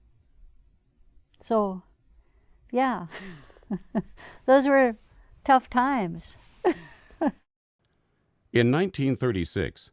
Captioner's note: laughs